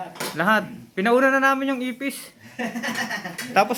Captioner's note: laugh